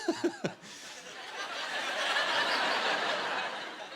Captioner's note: laughter